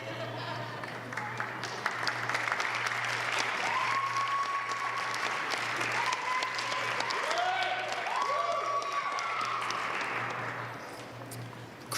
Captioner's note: applause